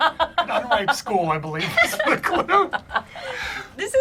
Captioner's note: laughs